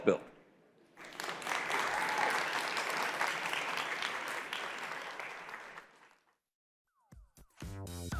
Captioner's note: applause